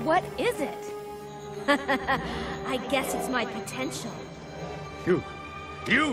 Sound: laughing

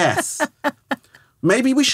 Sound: laughing

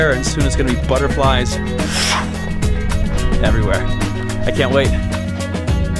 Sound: woosh; Swish

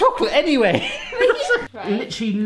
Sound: laughs

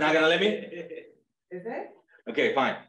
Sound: laughs

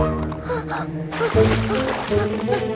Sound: gasp; sound of water

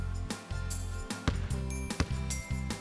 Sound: ball bounces

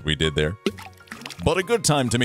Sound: ball Splashes Into Water

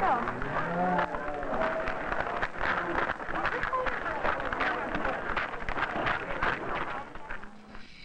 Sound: footsteps crunching

